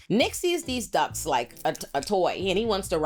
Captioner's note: none